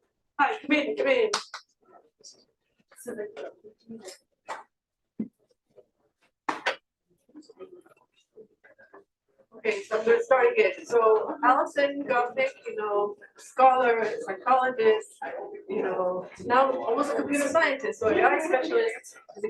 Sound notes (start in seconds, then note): 2.9 chatter